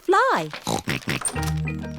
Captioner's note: snorting